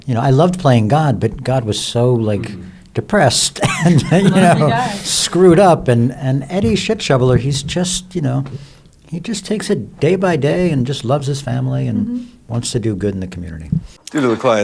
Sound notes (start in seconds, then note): 3.3 chuckles